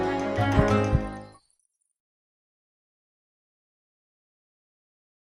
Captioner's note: bracelet Tinkling